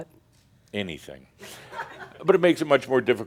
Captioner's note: some chuckles